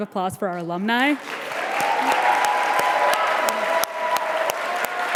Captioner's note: audience applauding